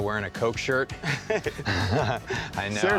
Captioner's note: laughs